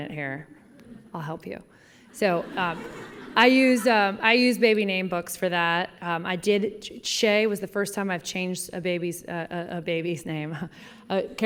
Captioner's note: laughter